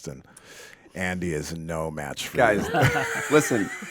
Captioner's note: laughs